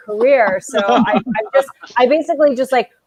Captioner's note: laughing